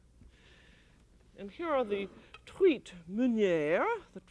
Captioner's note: speaking french